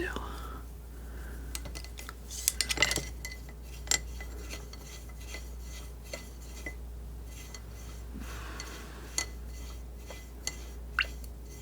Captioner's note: scratching